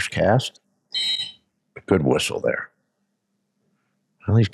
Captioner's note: whistle blows